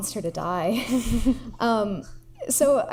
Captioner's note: laughs